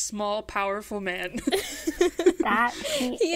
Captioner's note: hosts laugh